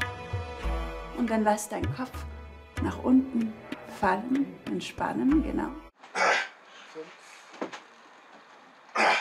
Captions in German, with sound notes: Und dann lass deinen Kopf nach unten fallen, entspannen, genau. (Angestrengte Laute)